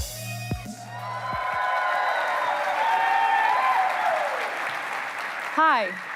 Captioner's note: applause